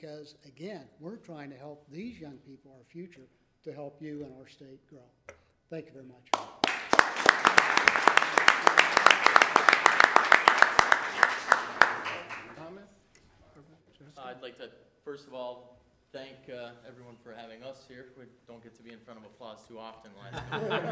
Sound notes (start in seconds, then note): 6.3 applause